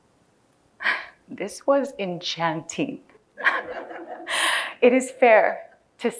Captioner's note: laughing